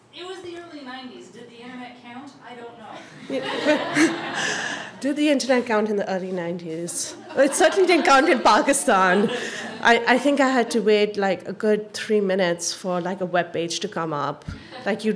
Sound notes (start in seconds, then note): 0.3 voiceover; 3.0 audience laughs